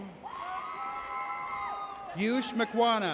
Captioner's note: audience cheers